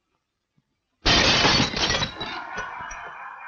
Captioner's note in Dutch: glas breken; werknemers lachen